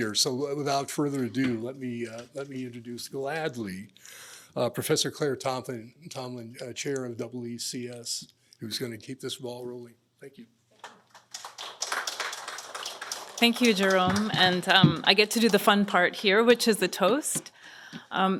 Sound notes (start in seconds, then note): 10.8 applause